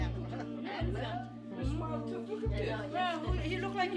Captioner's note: overlapping chattering